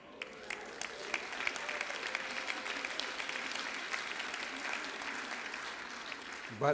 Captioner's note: applause